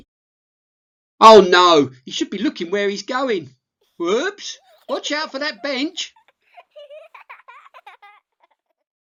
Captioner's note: giggles